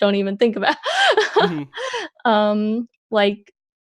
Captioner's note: laughs